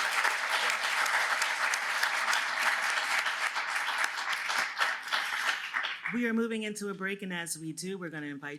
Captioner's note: applause